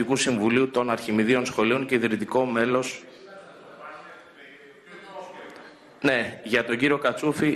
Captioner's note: noise from the audience